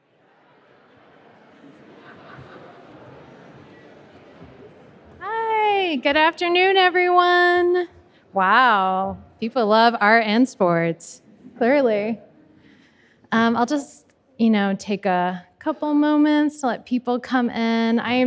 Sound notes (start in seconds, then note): 4.0 people murmuring